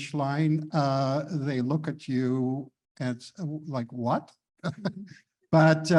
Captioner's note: chuckles